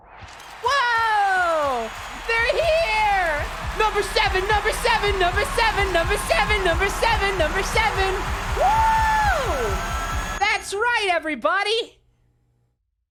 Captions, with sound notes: [crowd cheering, cameras flashing] Whoa! They're here! Number seven, number seven, number seven, number seven, number seven, number seven! [sound amplifying, rapid heartbeat] Wooo! That's right everybody! [sounds stop]